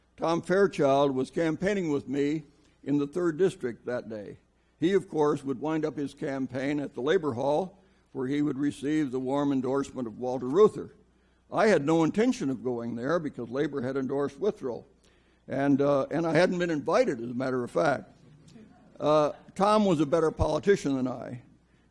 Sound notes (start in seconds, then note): 18.3 audience laughs